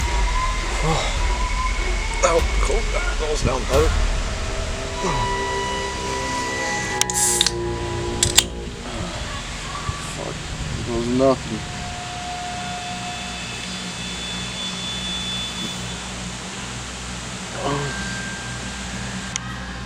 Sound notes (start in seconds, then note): 0.8 exhales In Relief; 2.1 mutters To Himself; 7.0 opens Pop Can